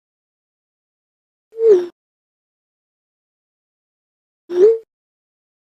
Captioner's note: teasingly